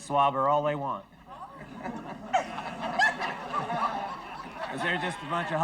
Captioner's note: audience laughs